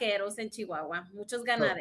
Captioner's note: speaks in Spanish